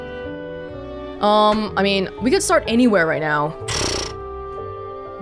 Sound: blows air out mouth

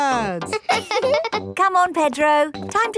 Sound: both laughing; chuckles

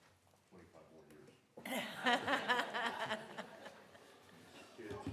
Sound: laughter

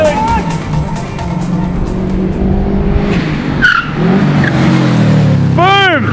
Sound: Subaru approaching and Passing

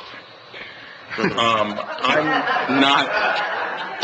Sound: laughs

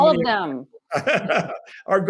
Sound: laughter

